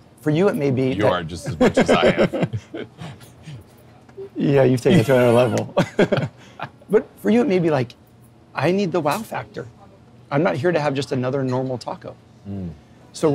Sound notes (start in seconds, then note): 1.4 laughs